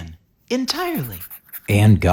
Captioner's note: pencil sounds